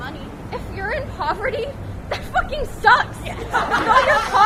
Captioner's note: laughter